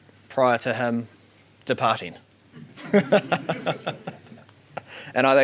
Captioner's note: laughs